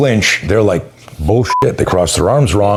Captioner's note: beep